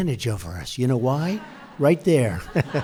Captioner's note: laughter